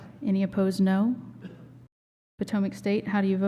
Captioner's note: silence